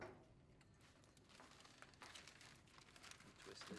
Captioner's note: paper crinkling